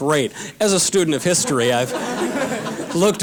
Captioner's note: audience laughter